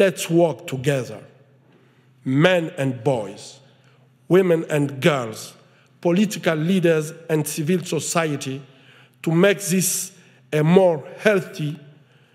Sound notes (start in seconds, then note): none